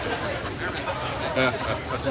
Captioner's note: chuckling